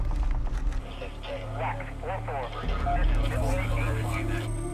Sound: radio chattering

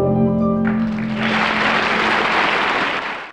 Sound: audience applause

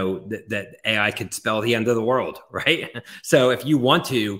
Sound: laughs

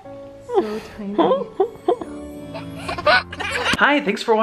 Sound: baby giggles

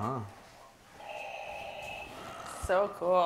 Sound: Darth Vader breaths

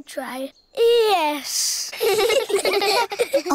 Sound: all giggle

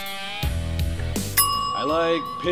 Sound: timer chiming

